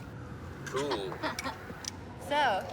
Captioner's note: blonde woman laughs